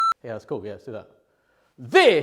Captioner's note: audio beeping